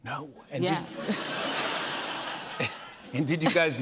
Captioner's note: laughter